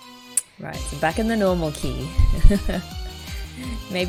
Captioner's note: laughs